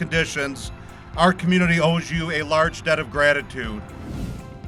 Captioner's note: swoosh SFX